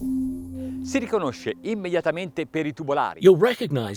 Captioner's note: speaking in foreign language